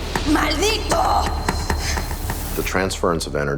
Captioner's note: woman speaking Spanish